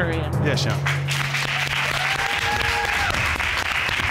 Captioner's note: audience applauds